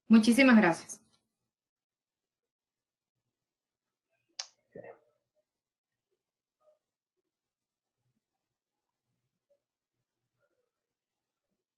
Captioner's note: silence